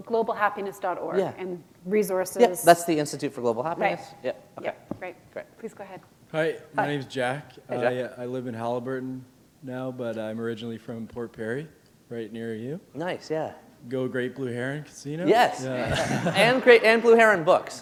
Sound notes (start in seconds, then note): 15.7 chuckle